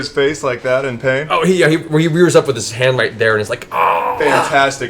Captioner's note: yelps